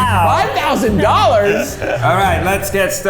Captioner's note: laughing